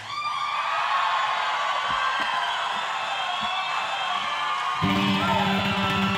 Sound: audience cheering and applauding

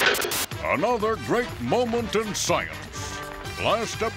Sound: <i> plane crashing</i>

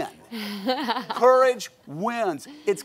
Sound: audience laughs

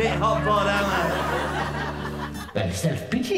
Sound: laughter

